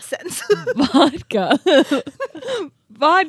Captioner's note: both laughing